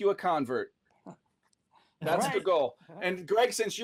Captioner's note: chuckles